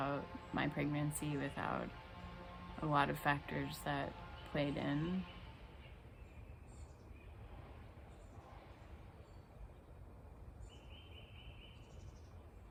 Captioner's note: lawn motor sounding